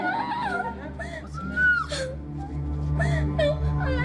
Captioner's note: crying